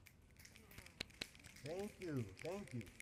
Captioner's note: applause